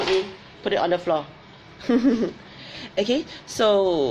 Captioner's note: laughs